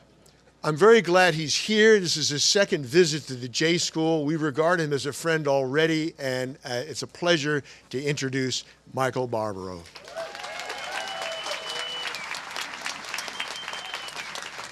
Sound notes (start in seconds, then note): 9.8 applause